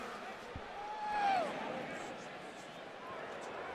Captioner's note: pa announcement